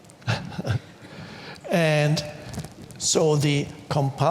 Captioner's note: chuckles